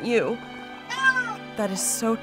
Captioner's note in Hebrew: יללה